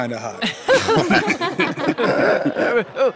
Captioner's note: laughs